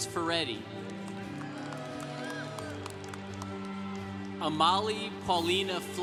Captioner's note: congregation cheering